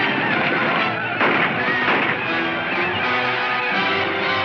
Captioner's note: guns firing